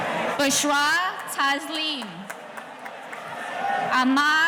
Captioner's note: clapping